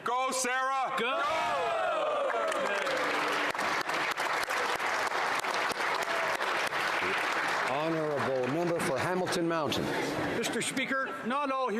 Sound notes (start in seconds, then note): 9.5 applause